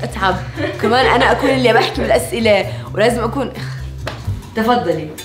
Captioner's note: exhales